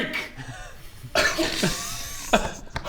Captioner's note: unfooled laughter